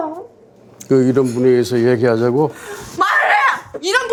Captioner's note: speaking Korean